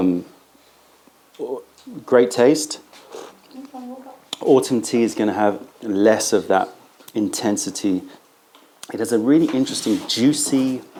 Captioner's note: sips tea